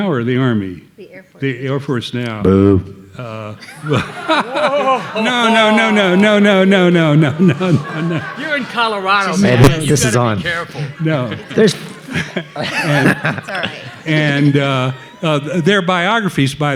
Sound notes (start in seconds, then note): 3.5 everybody laughing